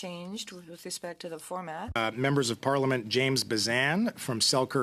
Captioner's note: speaking French